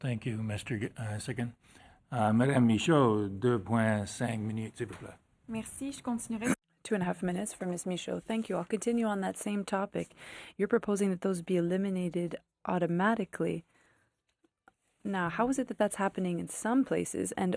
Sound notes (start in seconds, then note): 8.7 speaking FRENCH